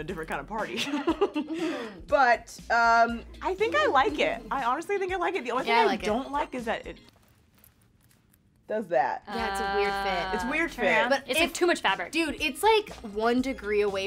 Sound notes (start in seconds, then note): 2.3 laughs; 7.3 metal buckles rattling